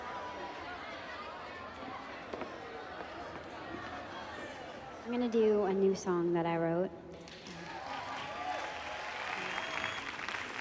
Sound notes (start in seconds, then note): 7.2 clapping